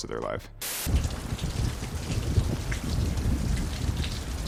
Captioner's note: thunder rumbling; rain pouring